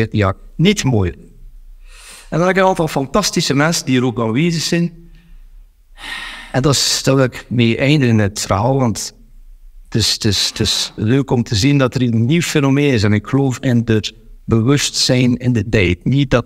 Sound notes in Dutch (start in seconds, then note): 4.4 diepe zucht